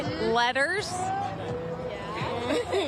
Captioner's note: laughter